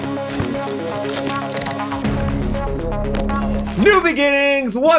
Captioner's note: lively music; typewriter clacking